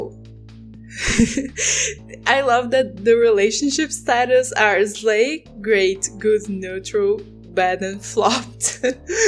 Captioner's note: laugh